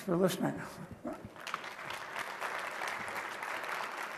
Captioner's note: applause